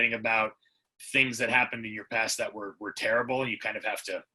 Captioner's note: none